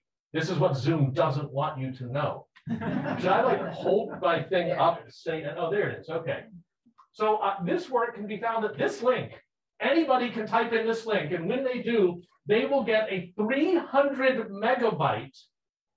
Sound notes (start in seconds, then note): 2.6 people laughing